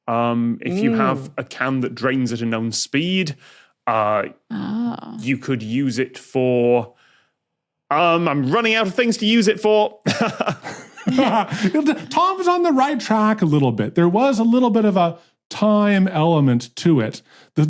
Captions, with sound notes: If you have a can that drains at a known speed. Oh. You could use it for... I'm running outta things to use it for! (chuckles nervously) (laughs) Tom's on the right track a little bit. There was a little bit of a time element to it.